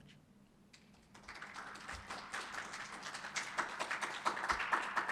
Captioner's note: applause